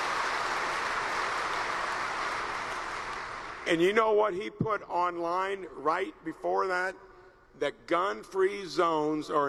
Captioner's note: applause